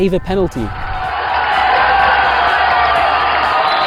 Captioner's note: crowd cheers